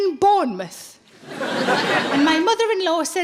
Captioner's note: audience laughing